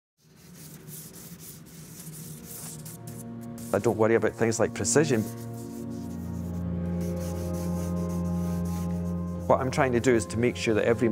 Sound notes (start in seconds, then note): 2.7 charcoal rubbing; 8.5 soft ominous music